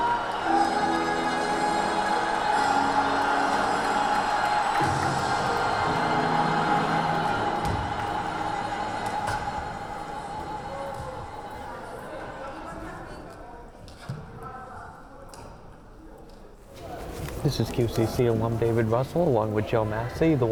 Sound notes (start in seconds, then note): 2.8 cheering